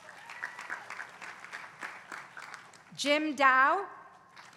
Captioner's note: applause